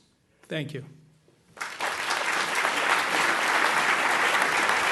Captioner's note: applause